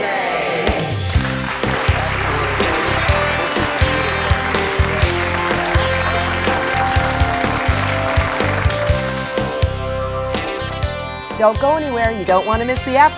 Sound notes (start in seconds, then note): 0.2 upbeat music; 4.7 audience applauds